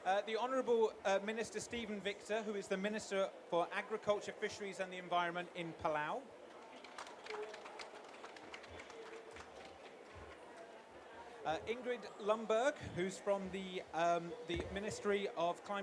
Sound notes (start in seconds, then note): 6.5 applause